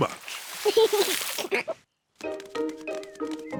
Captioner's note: giggles